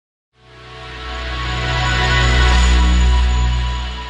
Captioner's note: chiming